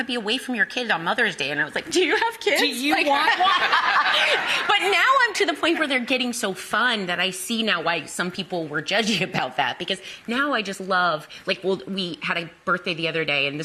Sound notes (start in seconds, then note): 2.6 audience laughing